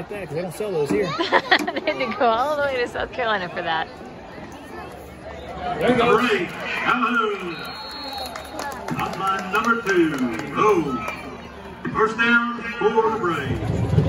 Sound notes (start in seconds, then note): 1.2 laughing; 7.4 whistle blows